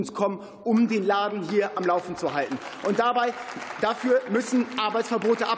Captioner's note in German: Beifall